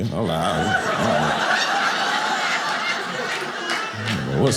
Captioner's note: audience laughing